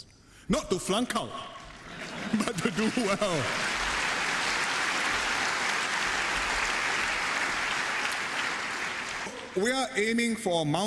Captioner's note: cheers and applause